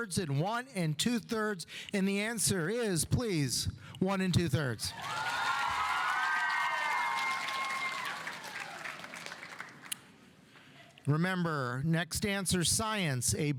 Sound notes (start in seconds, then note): 4.9 audience cheering; 4.9 audience applauding